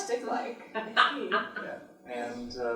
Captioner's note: laughs